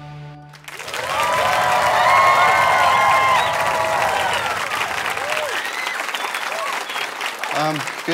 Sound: audience applause

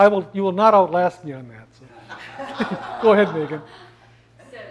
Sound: laugh

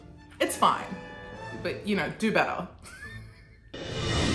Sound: laughs; shrill music

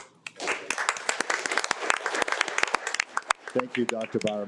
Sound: audience applauding

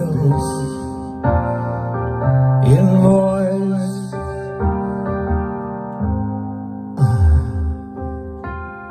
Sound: sigh

